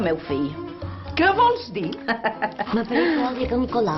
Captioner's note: laughs